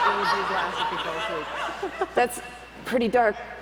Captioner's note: laughter